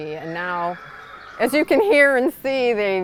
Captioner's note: horse whinnies energetically